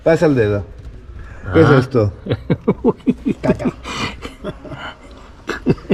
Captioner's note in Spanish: Risa nerviosa